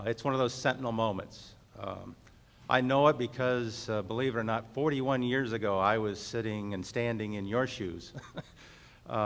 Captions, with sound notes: It's one of those sentinel moments. I know it because, believe it or not, 41 years ago I was sitting and standing in your shoes (laughs).